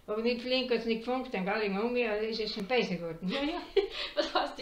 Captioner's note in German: lacht